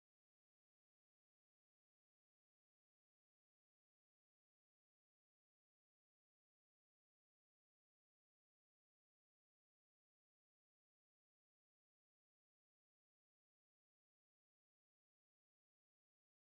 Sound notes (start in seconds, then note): none